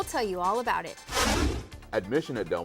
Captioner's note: whooshing